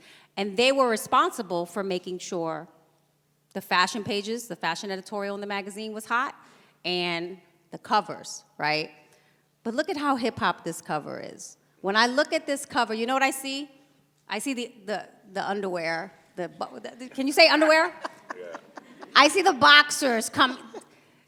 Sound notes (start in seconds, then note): 16.6 laughs